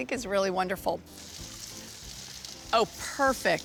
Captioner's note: sizzling